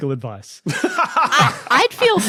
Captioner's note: laughs uproariously